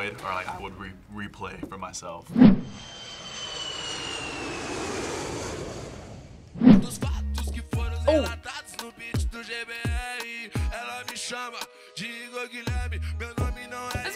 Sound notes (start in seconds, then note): 2.5 airplane engine roars; 9.1 singing in Portuguese